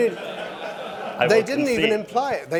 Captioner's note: laughter